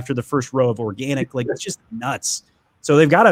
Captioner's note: laughs